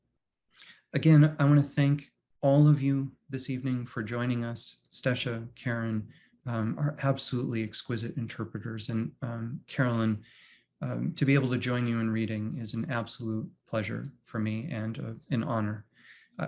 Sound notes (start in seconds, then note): none